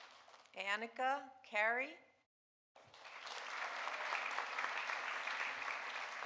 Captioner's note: audience applauding